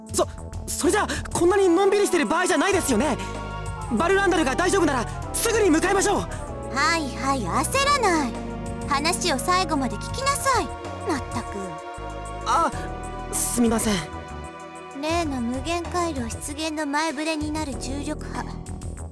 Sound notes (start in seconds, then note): 11.5 weary sigh